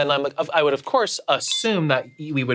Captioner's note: bell dings